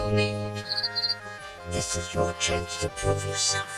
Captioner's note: twitters